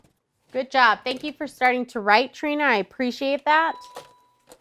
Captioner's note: ding